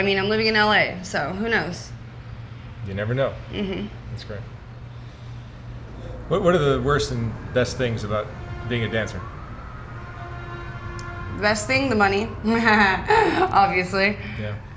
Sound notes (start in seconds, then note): 3.7 hums in agreement; 12.5 laughs